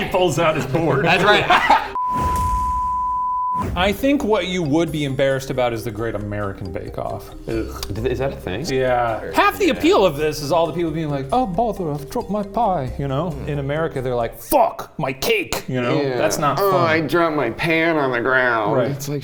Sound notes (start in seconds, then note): 1.9 production beep